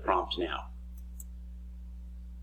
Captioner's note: mouse click